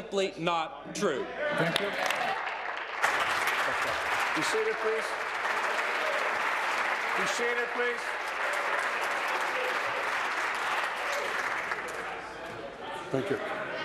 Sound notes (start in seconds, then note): 4.8 applause